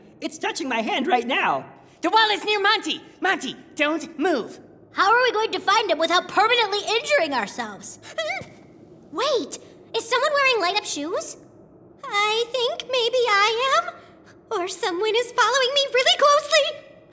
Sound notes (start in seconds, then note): 8.1 shriek